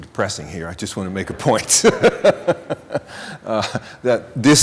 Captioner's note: laughing